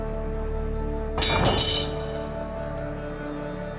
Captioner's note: clatter